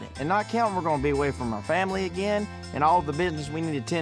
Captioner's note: none